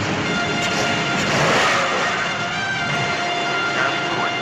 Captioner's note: tires spinning